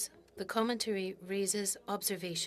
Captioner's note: speaking French